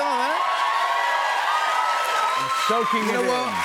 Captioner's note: cheers and applause